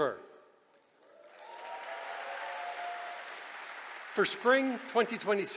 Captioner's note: cheering